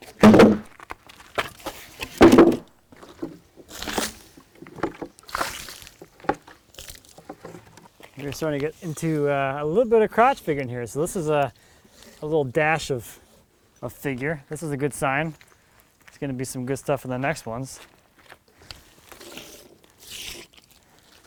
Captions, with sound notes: (wood thuds) (water sloshing) We're starting get into a little bit of crotch figure in here. So this is a little dash of a figure. This is a good sign. It's gonna be some good stuff in the next ones.